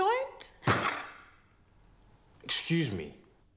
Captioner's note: fist thudding